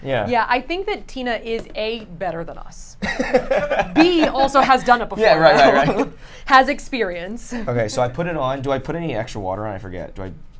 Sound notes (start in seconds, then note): 3.0 laughs